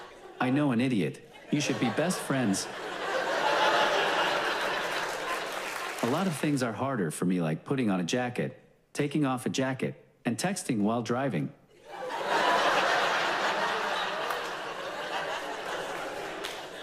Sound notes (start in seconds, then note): 1.3 audience laughs; 11.8 audience laughs loudly